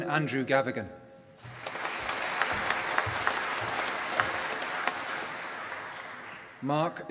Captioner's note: applause